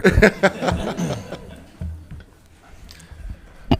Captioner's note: all laughing